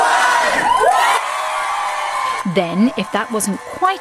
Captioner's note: cheering